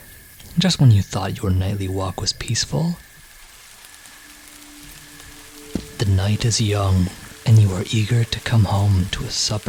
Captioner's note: rain begins to fall